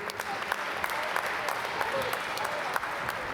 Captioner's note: applause